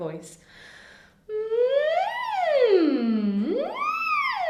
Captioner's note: humming